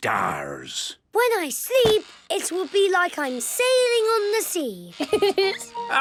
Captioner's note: laughing